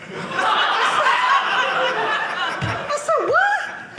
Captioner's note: audience laughing